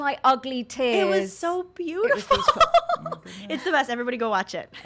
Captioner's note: laughs